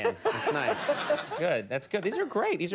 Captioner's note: Martha laughs